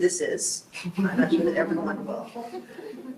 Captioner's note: group laughs